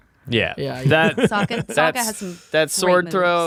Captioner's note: laughing